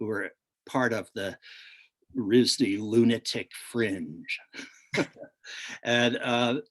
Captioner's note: laughs